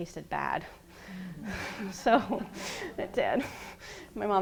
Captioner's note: laughing